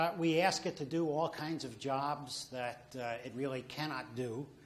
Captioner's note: none